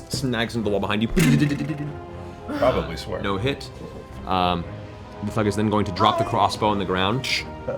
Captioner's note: arrow landing sound